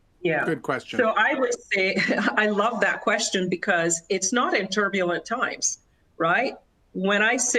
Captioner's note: laughter